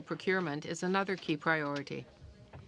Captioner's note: speaking in french